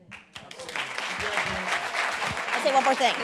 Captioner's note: group applauds